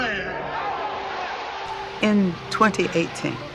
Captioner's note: audience cheering